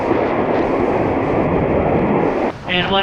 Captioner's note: wind blowing